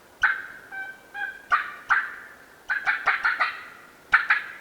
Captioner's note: turkey calling